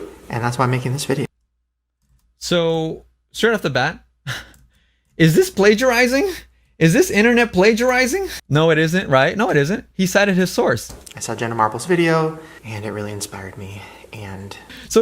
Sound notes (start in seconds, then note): 4.3 chuckles